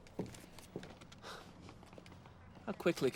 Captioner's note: exhales sharply